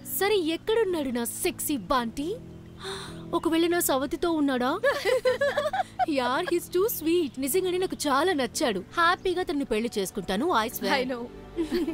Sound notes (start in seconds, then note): 4.8 giggling; 11.6 chuckles